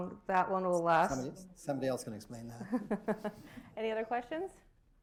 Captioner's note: laughter